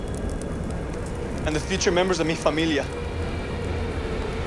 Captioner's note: speaking Spanish